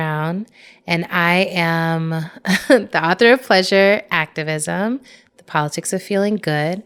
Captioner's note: chuckles